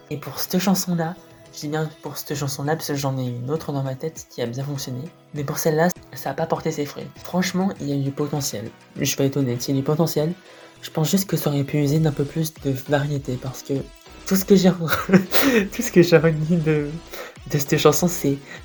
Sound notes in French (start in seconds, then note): 14.8 haha